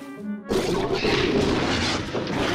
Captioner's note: growling, clattering